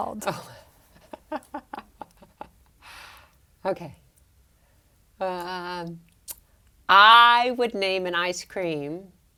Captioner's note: laugh